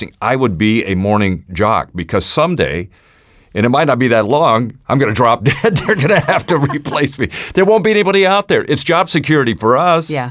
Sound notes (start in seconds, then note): 5.4 laughing